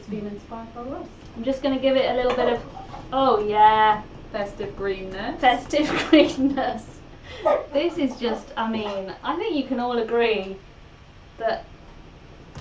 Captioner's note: laughs